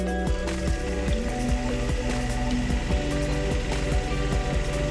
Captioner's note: bright music continues; car engine roaring dully